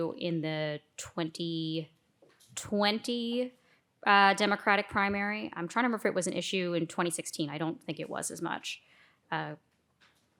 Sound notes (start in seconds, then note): none